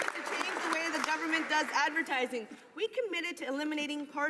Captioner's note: some Applause